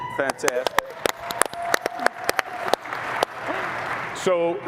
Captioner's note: applause